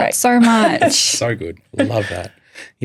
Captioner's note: chuckles